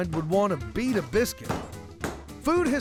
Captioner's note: pounding sound